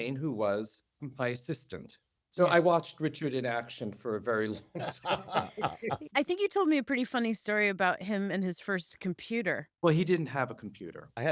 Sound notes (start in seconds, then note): 4.6 laughter